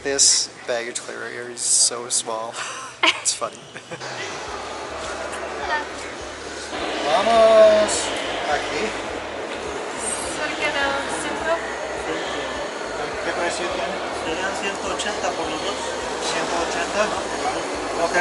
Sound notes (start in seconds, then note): 7.5 speaking Spanish